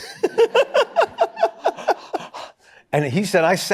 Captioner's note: laughter